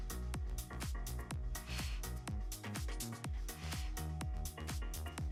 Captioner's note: upbeat lively music; exhaling deeply